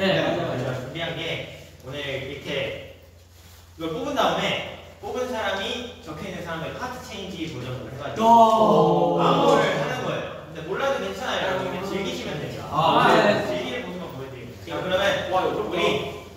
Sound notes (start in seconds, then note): 8.1 sounds of amazement